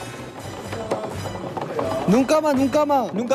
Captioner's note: banging